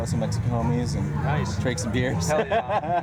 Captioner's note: laughter